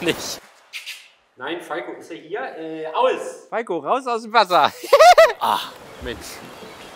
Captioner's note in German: lacht